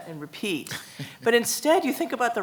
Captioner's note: laughs